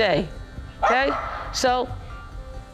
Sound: dog barks

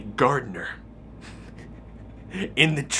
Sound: giggles

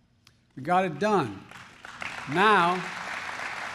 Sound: applause

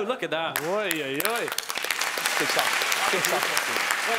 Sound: applauding

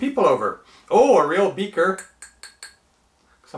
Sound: light tapping

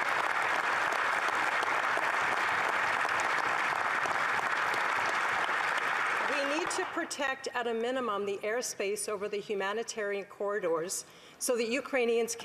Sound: applause

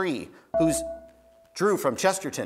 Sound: buzzer beeps

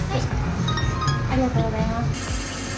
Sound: machine chimes; machine rattles

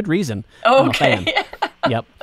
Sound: laughs

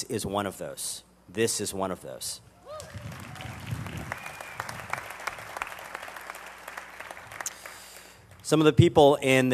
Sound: applause

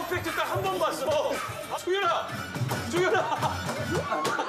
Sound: stepping

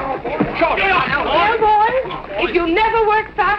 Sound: commotion

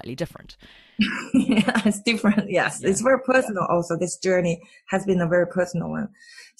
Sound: laughs

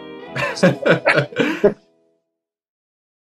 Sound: laughter

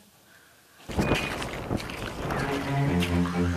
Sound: static

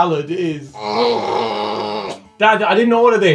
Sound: cat growl

